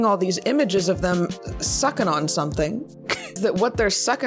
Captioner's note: laughs